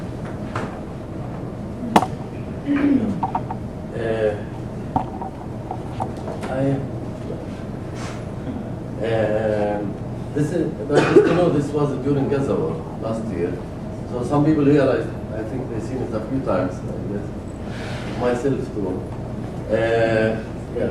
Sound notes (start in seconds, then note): 10.9 cough